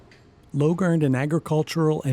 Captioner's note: voiceover